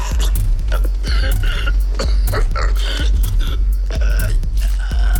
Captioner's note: coughing and wheezing